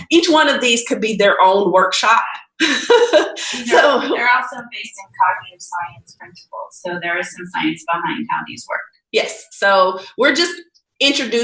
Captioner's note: laughing